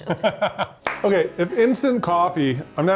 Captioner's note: laughs; claps hands